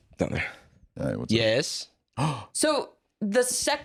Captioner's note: gasps